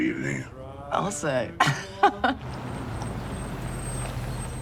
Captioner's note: laughs